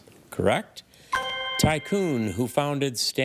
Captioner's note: ethereal ring